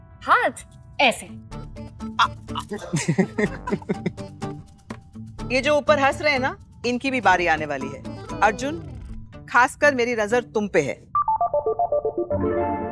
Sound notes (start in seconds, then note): 2.5 laughing; 11.2 amusing music playing